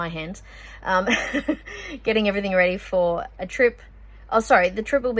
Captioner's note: chuckles